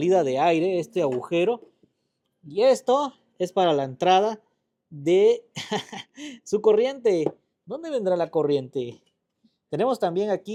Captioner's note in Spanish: risas